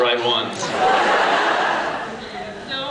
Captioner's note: laughs